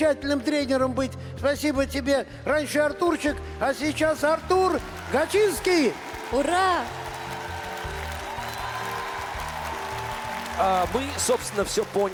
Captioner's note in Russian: аплодисменты; ликование